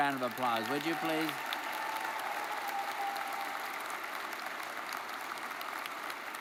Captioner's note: audience cheers and applauds